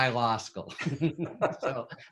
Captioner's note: both chuckle